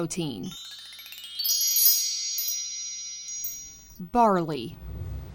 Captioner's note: bells chime